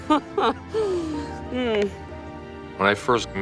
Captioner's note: Elke chuckles